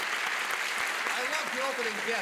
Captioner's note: cheers and applause